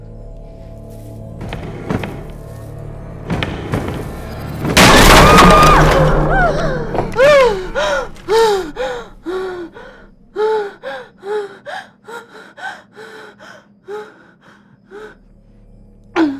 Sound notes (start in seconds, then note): 0.1 banging sound; 4.9 screams; 6.3 gasping